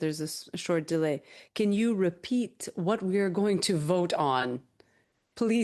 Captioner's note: speaking French